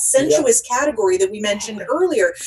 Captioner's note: laughing